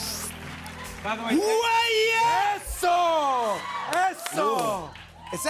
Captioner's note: both screaming